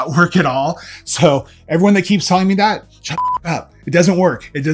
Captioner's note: beep